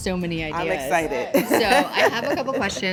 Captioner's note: laughs